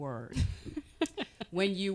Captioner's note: giggling